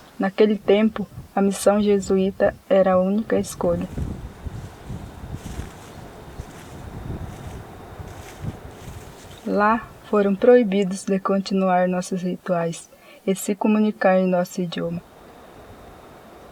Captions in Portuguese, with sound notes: Naquele tempo, a "missão Jesuíta" era a única escolha. [Passos na grama] Lá foram proibidos de continuar nossos rituais e se comunicar em nosso idioma.